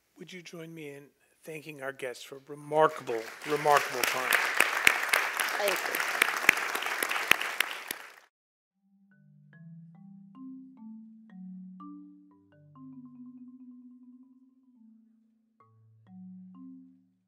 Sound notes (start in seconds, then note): 2.9 applause